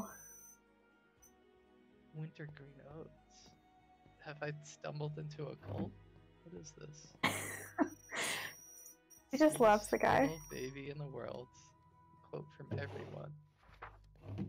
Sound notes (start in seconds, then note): 7.2 laughs